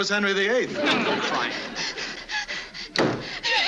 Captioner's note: Ann pants; laughs nervously